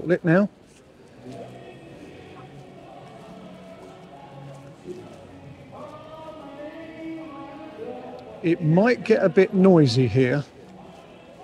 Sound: chanting

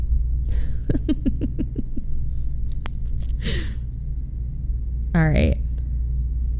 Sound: laughs

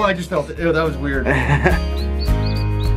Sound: laughs

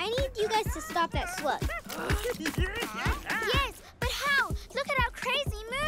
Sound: chuckles

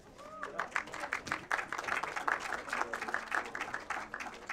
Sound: applause

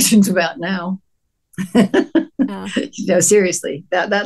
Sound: laughs

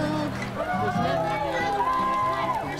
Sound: cheering

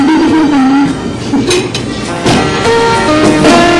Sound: chuckles

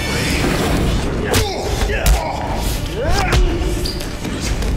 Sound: punching

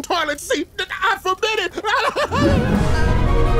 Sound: crying; gasping

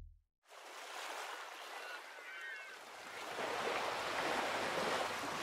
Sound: water sloshing; seagulls squawking

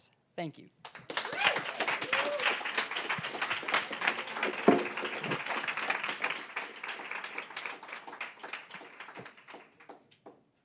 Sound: applause

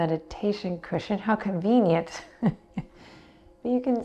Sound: chuckles

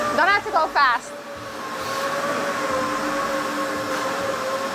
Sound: machinery whirring

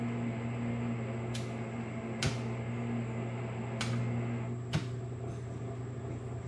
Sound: amateur Welding Noises

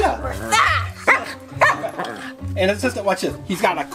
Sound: Wiggles barks

